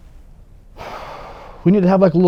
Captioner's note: sighs